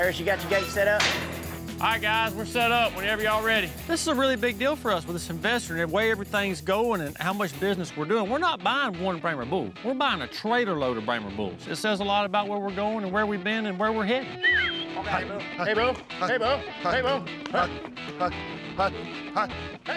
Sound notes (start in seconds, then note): 14.3 whistles